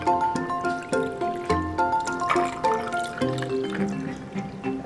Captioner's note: water burbles; light-hearted percussive music